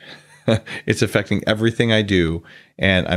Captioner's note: chuckles